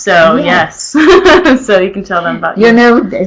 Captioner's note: chuckles